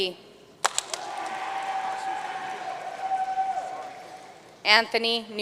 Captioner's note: audience cheering and applauding